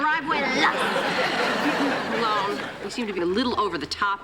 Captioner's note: laughter